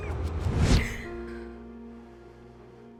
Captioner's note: screams; gasps